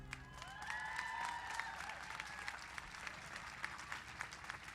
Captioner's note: cheers and applause